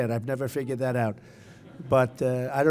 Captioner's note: laughter